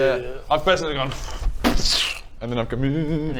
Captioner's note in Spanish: booofscsh